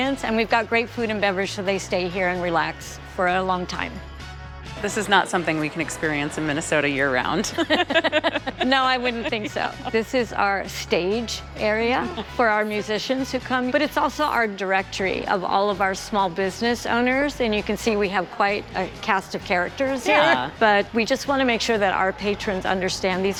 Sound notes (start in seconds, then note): 7.5 laughs